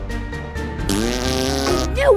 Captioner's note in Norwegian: Obligatorisk Prompelyd på ein Perfectly Paranormal Trailer